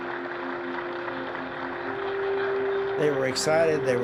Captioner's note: crowd applauding